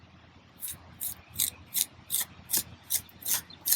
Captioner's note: scraping